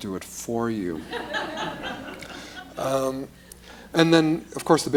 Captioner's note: laughter